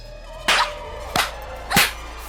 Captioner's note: whip cracking